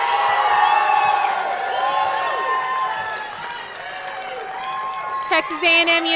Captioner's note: audience cheering; audience clapping